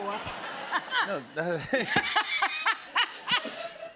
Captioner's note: laughter